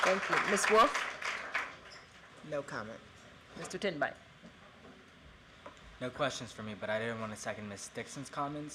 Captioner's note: applause